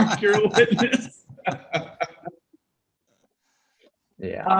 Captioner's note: everyone laughs